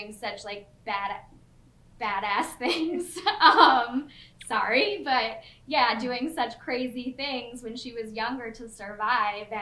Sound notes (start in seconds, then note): 3.3 laughs